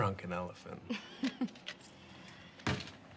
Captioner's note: laughs